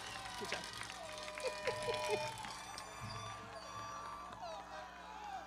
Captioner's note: laughing